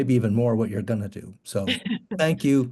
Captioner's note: laughing